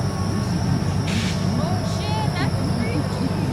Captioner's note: air hissing